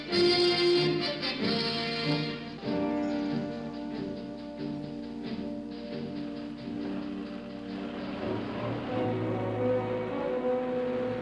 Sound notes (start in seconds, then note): 6.4 jeep rumbling